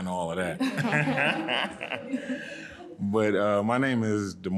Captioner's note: audience laughing